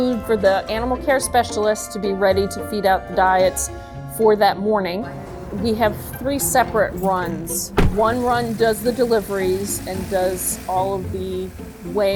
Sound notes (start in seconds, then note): 7.6 truck door slams